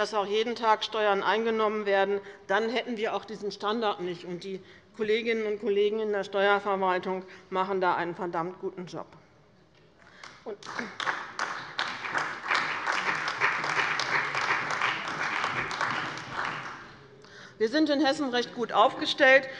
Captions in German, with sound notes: dass jeden Tag Steuern eingenommen werden, dann hätten wir diesen Standard nicht. Die Kolleginnen und Kollegen in der Steuerverwaltung machen da einen verdammt guten Job. (Beifall bei dem BÜNDNIS 90/DIE GRÜNEN und der CDU sowie bei Abgeordneten der SPD) Wir sind in Hessen recht gut aufgestellt.